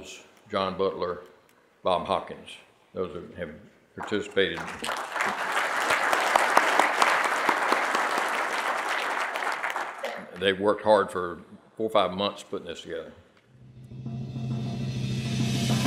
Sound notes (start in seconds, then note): 4.5 audience applauding